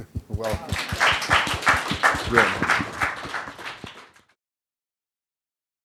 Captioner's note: applause